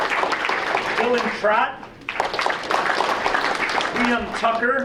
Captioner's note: audience applauding